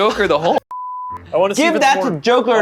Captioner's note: beep